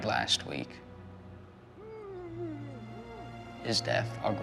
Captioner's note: male executioner grunting